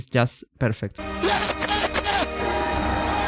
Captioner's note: Leclerc radio